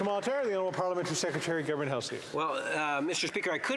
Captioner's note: some Applause